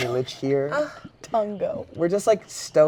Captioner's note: laughing